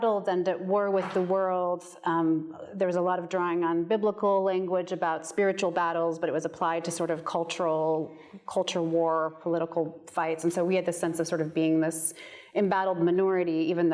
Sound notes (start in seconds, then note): none